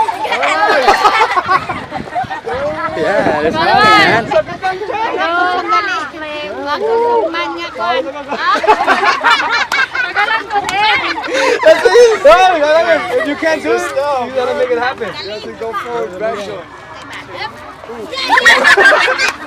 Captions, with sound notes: (Giggles & Laughter) Hahahaha Yeah, they're smiling man! (Laughter) Parang manyak kwan Ah Hahahahaha You can't do it? You got to make it happen. That's his style man, you got to do the forward back joint. (Loud laughter)